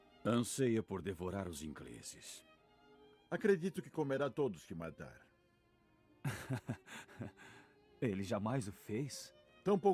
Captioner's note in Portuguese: risadas